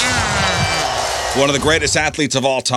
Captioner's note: audience cheers